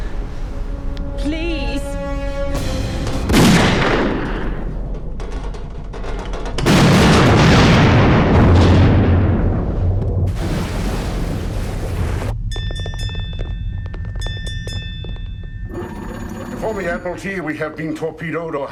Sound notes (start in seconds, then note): 3.3 gun firing; 6.8 bottle exploding; 12.5 bell ringing